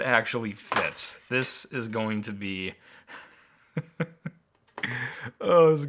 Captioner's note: laughs